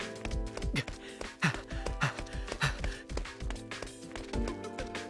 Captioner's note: panting